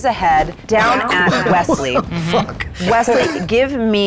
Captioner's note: laughs